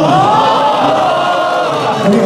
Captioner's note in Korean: 일동 환호